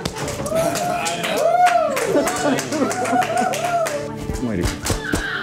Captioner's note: cheering and applauding